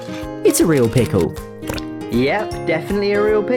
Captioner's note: squelch